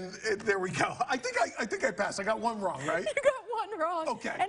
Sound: laughter

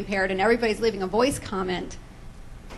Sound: none

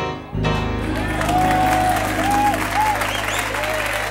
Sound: people cheering

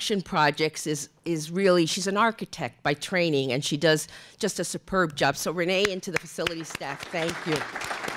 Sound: applause

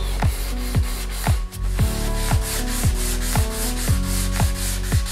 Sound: sanding

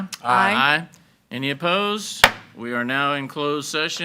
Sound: gavel bangs

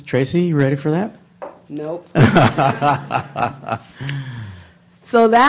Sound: laughs

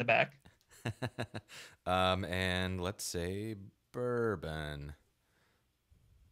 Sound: laughing

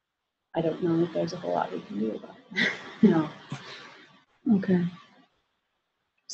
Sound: laughter

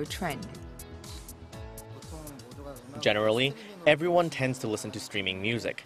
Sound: Korean

